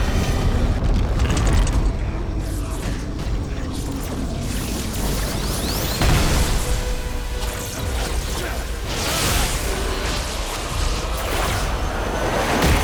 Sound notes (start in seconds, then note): 2.6 static sparking; 6.0 booming; 8.8 spell whipping and striking